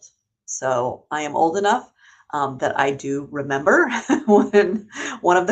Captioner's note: laughs